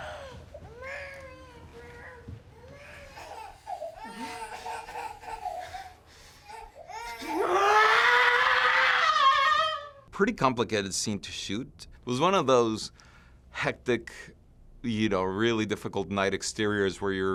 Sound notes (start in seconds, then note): 2.5 child cries; 4.0 Mollie screams